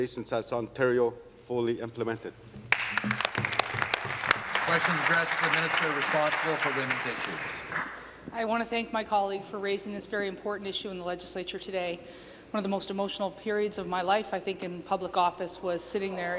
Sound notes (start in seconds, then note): 6.0 applause